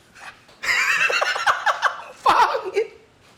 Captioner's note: laughs